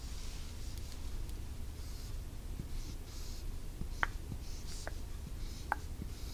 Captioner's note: writing sound